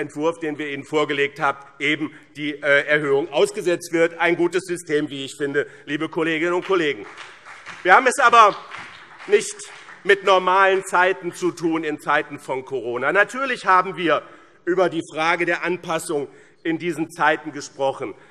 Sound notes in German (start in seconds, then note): 6.3 Vereinzelter Beifall BÜNDNIS 90/DIE GRÜNEN